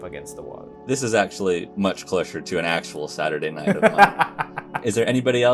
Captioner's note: laughter